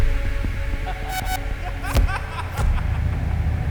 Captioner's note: laughter